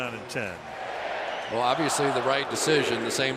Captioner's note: crowd chanting